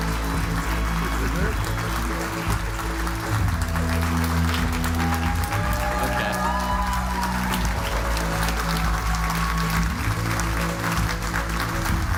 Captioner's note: applause